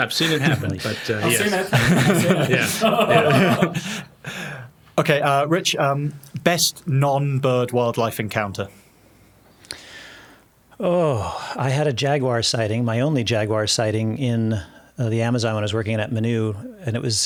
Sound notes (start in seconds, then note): 3.2 laughing